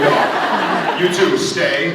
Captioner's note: scattered laughs